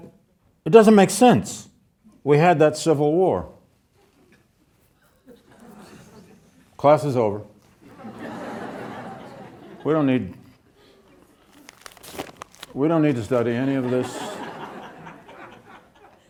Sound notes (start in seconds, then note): 7.9 audience laughing